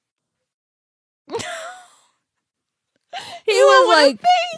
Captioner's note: laughs